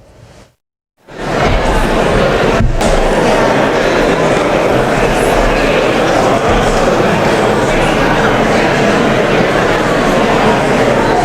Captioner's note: indistinct chatter